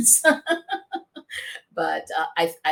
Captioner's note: laughter